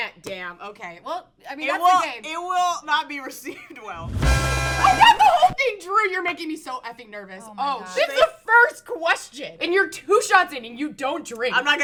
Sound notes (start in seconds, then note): 3.9 mariachi music; 4.8 laughs